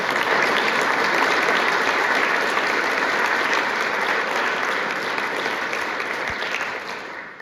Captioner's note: applause